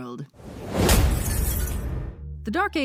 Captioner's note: impact followed by falling glass